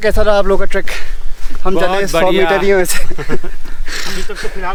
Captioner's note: laugh